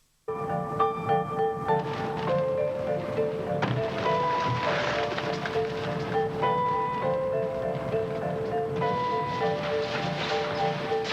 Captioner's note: disturbing music; wings flapping